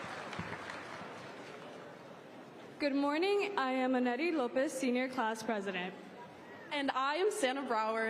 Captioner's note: applause